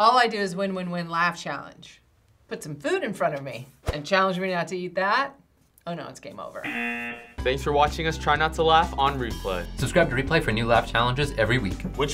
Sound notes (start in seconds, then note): 6.6 buzzer rings